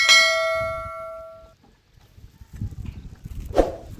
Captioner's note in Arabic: جرس